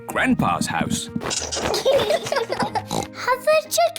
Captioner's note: both giggling; oinks